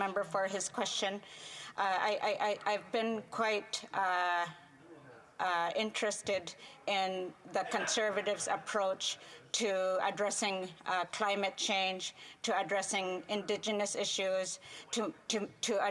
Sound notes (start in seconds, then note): 8.8 speaking French